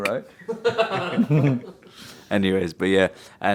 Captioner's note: group laughing